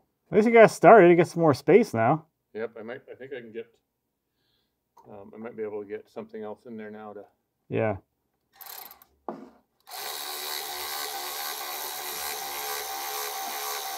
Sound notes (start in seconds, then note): 9.8 tool whirring